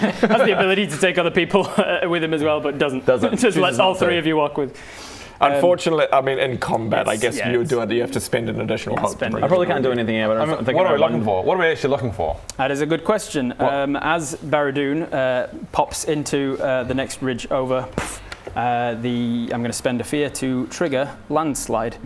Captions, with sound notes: Has the ability to take other people with him as well but doesn't! Doesn't Just lets all three of you walk Unfortunately, I mean in combat I guess you'd have to spend an additional hope I probably can't do anything here - I mean, what are we looking for? - but I'm thinking I... What are we actually looking for? That is a good question As Baradun pops into the next ridge over *poof!* the...I'm gonna spend a fear to trigger landslide